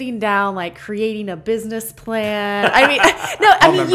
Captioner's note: laughter